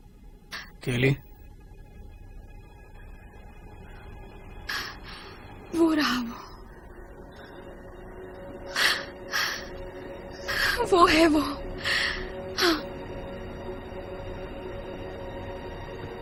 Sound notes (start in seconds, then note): 2.4 breath trembling